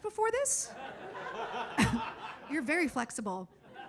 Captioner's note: audience laughs